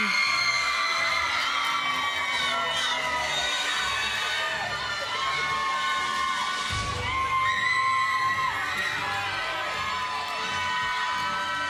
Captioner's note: applause